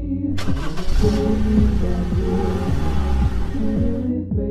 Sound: car drives away

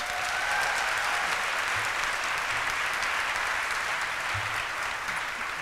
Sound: applause

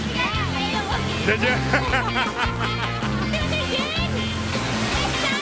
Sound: laughs

